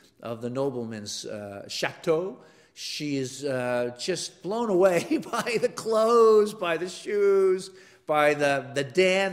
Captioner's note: laugh